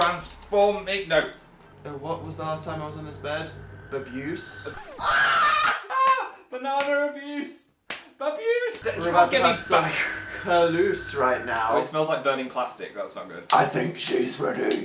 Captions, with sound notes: Transform-no. What was the last time I was on this bed? Babuse. (dramatic sound effect) (record scratch) AH! AH! Banana abuse! Babuse! You can't get me back! We're about to have some curluse right now. Oh, it smells like burning plastic. That's not good. I THINK SHE'S READY.